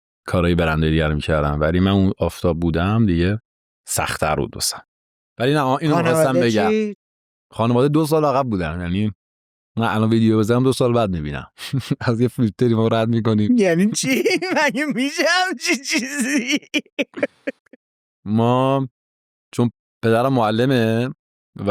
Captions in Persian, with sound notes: کارهای برندهای دیگه رو می‌کردن ولی من آفتاب بودم دیگه سخت‌تر بود واسم. ولی این رو می‌خواستم بگم... - خانواده چی؟ - خانواده دوسال عقب بودن یعنی من الآن ویدیو بذارم دو سال بعد می‌بینن. از یه ما فیلتری رد می‌کنیم. - (خنده) یعنی چی؟ مگه می‌شه همچین چیزی؟ - ما چون پدرم معلمه